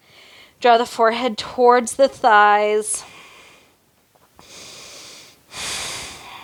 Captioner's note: breaths heavily